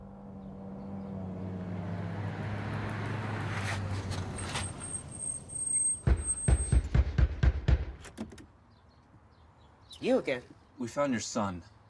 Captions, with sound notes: (engine revving) (banging on door) - You again. - We found your son.